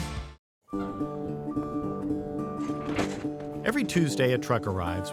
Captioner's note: gentle music; vehicle beeping